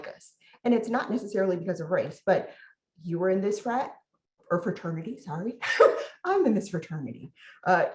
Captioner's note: laughs